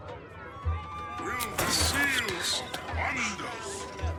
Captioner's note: whispers